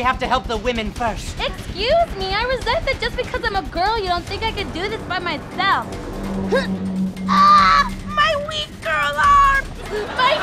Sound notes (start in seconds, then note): 6.7 grunt